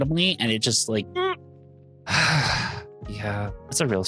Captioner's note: sigh